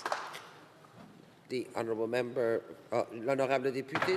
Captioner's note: speaking French